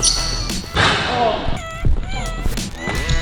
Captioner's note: ball hit rim; upbeat pop music